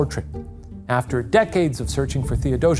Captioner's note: screen whooshing softly